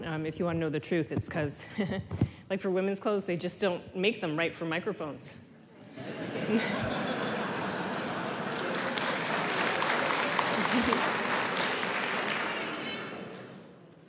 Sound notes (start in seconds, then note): 5.8 laughter; 8.6 applause